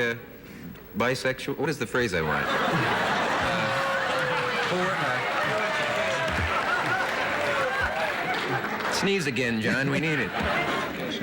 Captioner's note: laughter